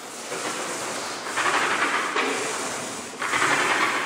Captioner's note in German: Wiederholtes Rattern